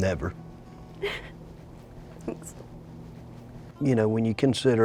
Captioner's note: crying